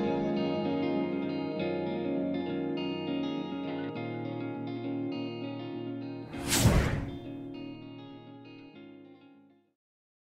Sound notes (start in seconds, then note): 6.3 air whooshing